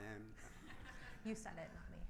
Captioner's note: audience laughs